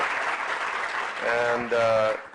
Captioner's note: applause